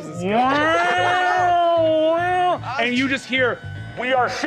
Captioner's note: imitating sirens